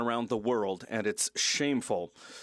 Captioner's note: speaking French